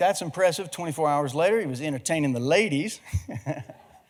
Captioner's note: laughing